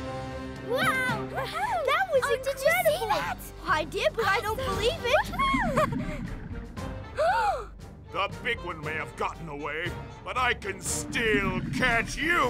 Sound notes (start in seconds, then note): 0.0 instrumental music; 5.6 splash gasps